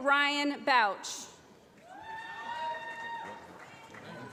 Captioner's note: applause